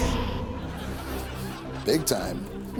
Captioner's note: audience laughs